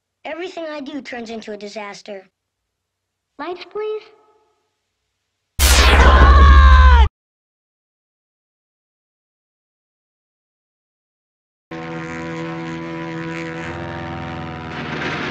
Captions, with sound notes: Everything I do turns into a disaster. Lights please? [loud zap, someone screams] [aircraft engine noise]